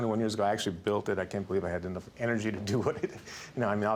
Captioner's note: chuckles